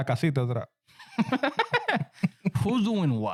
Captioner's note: laughing